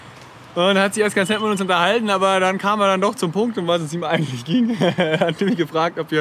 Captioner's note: laughs